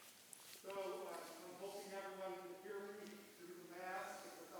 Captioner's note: mutters